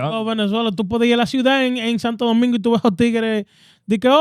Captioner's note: speaking In Foreign Language